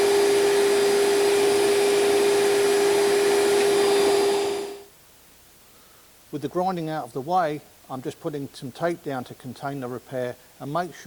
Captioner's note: vacuum sound